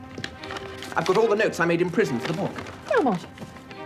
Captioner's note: none